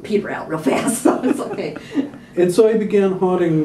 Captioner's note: laughter